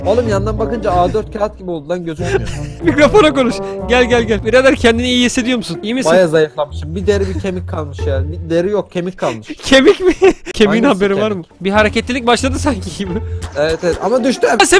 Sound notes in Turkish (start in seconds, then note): 9.2 Gülerek; 13.5 Bağırarak